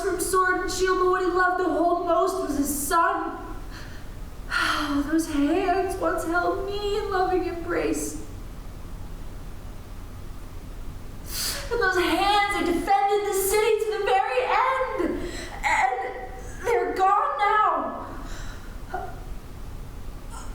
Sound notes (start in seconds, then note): 4.2 sigh